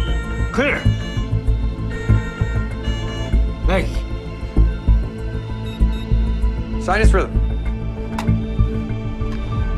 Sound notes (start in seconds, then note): 5.4 machinery beeps